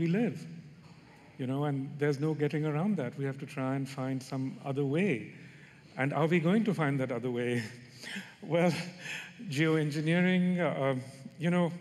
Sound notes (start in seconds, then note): none